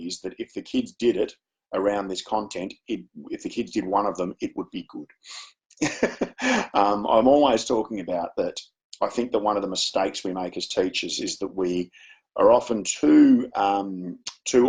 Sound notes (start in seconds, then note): 5.8 chuckles